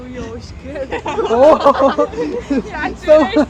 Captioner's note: laugh